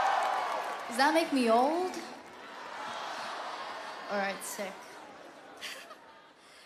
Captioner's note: crowd cheering